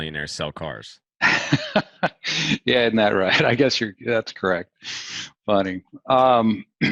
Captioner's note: laughs